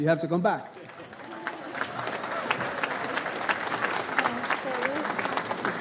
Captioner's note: audience applauds